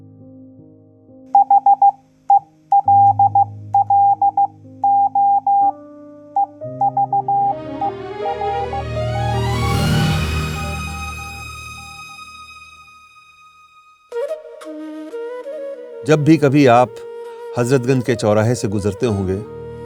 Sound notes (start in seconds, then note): 1.4 morse Code